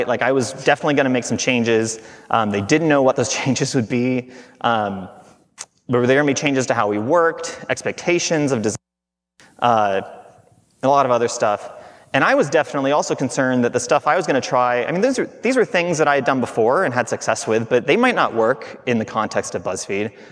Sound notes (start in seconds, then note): none